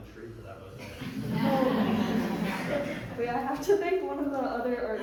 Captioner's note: audience laughing